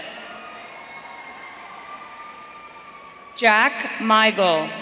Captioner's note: audience cheering